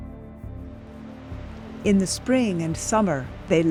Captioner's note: water flows